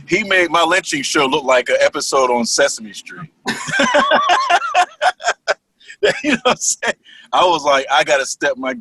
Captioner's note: laugher